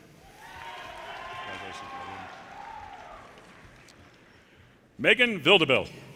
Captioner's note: audience cheers and applause